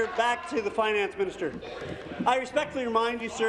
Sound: applause

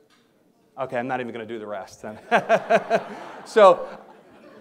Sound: laughs

